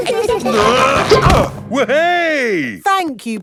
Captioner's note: all giggling; grunting